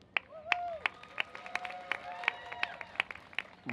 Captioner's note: applause